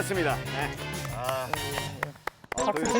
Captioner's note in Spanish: Aplausos vacíos / Clap clap clap x2